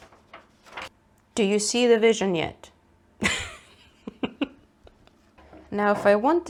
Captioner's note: breaks into giggles